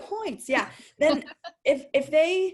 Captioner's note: laughing